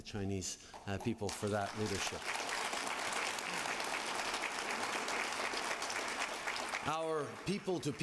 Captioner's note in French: Applaudissements